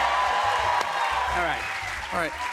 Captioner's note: cheers and applause